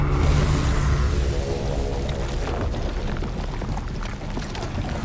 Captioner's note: dinosaurs growling; equipment exploding